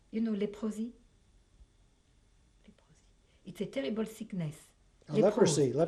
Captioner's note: pauses for 3 seconds